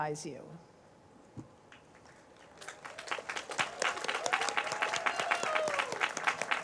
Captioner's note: cheers, applause